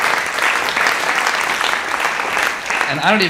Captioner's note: audience applauding